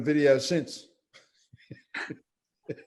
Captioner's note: laughs